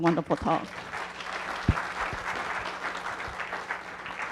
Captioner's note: applause